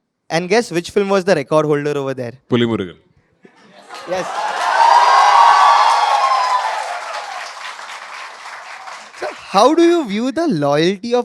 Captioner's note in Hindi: तालियां